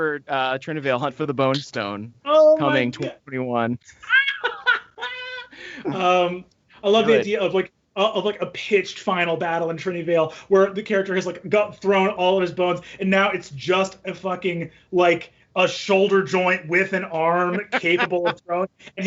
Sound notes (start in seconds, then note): 3.8 laughing